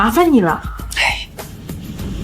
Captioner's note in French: Soupir